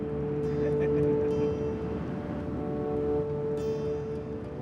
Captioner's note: laughing